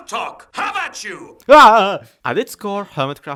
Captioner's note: panicked noises